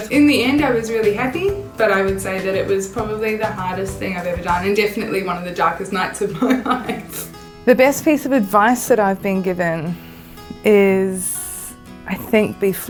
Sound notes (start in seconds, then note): 6.2 laughing